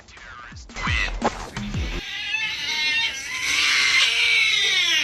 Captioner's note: cat screeching in pain